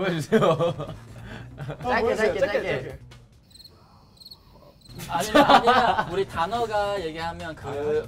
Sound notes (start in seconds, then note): 3.4 crickets